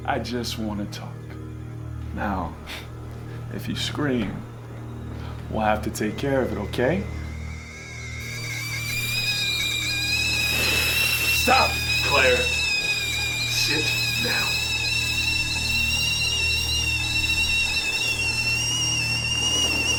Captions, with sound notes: I just wanna talk. Now, if you scream, we'll have to take care of it, okay? (steam screeching) Stop, Claire, sit down.